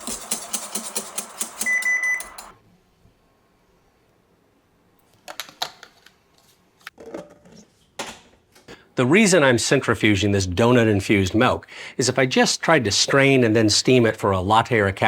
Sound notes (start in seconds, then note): 0.0 whisk tapping; 1.4 timer beeping; 5.4 lids scraping